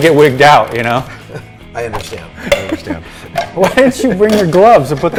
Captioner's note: men laughing